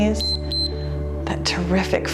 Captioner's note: timer beeps